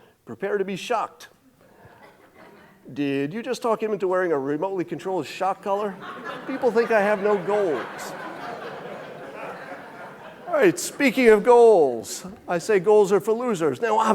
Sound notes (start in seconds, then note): 1.7 audience chuckling; 8.4 audience laughing